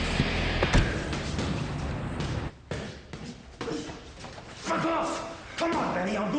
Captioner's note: car door clicks closed